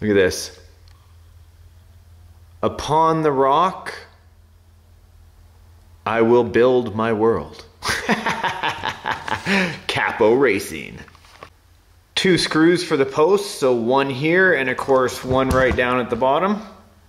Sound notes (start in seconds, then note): 7.8 laughs